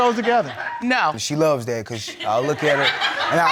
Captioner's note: audience laughing